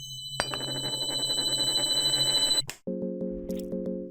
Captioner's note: coin Spins